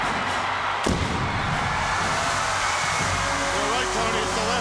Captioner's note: fireworks booms and whooshing